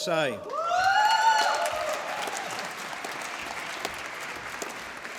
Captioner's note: applause